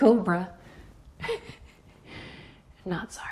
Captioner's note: laughing